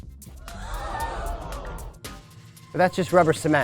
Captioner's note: audience gasping